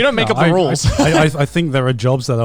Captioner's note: chuckles